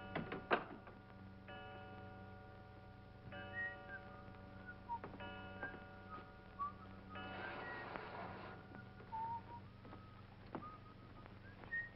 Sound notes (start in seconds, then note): 3.5 whistles jauntily